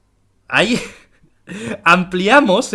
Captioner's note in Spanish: risas